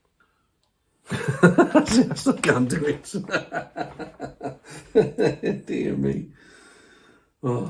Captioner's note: laughing; more laughing